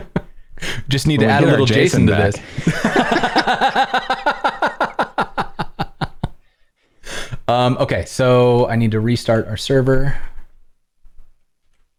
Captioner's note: laughter